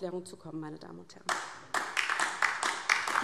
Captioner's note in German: Beifall DIE LINKE